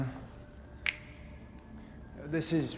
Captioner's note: both snap